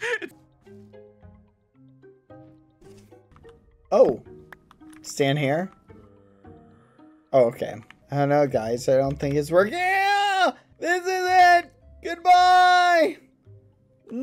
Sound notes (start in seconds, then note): 0.0 both laughing; 0.3 ambient music; 9.8 yells